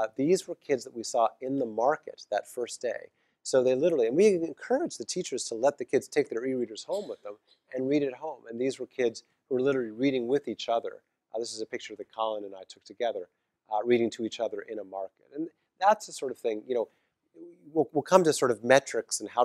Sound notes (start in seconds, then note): 6.9 cough